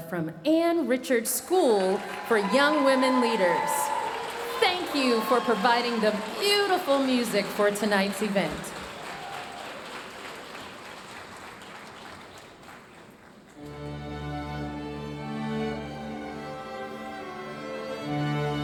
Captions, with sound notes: from Ann Richards School for Young Women Leaders. Thank you for providing the beautiful music for tonight's event. (audience cheering and applauding) (bright lively music)